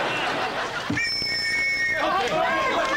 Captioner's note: tweet!